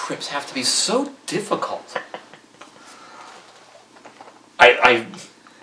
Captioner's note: laughter